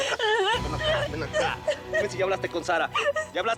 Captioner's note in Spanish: llanto más fuerte